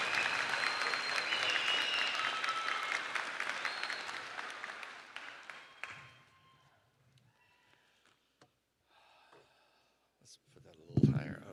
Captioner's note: cheering and applause